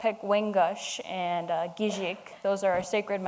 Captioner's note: speaking in foreign language